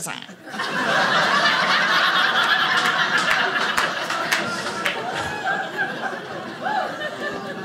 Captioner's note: audience laughing